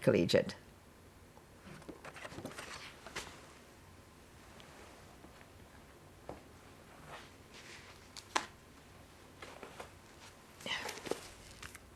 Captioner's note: pauses 10 seconds